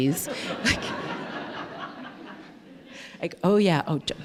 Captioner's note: laughter